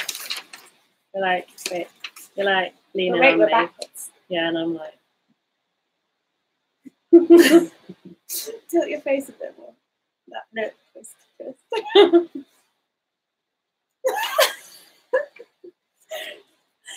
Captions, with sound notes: - We're like, wait. We're like... - Wait we're backwards. - Yeah a little bit. (both laughing) - Tilt your face a bit more. Nah, nope, just (laughing). (both laughing)